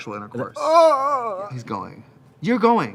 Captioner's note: exclaims